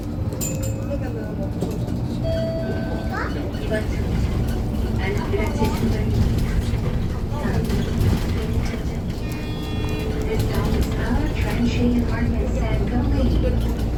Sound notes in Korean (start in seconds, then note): 9.2 하차벨 소리